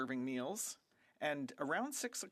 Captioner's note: speaking French